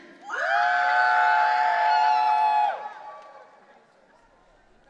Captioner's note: audience cheering